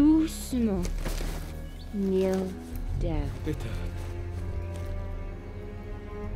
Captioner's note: speaks in French; soldier speaks in German